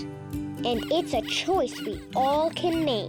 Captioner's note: pig squeaking